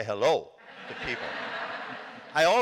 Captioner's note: laughter